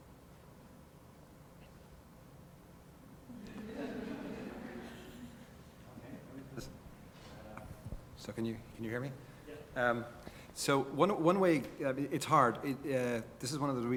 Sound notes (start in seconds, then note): 3.3 laugh